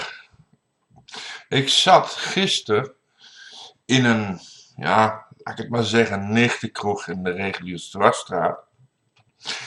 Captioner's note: ahem